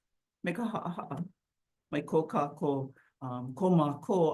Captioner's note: speaks Hawaiian